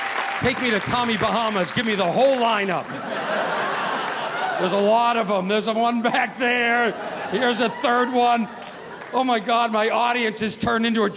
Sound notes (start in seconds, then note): 3.4 audience laughing